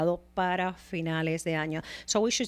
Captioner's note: Hablando ingl\s